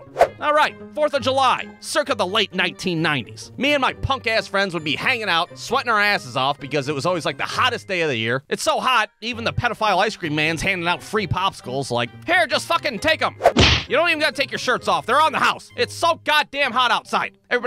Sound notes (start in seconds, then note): 13.4 thwack!